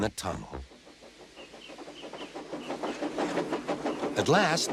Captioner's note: steam engine approaches